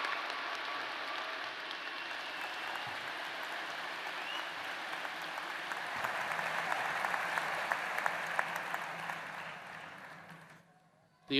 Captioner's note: applause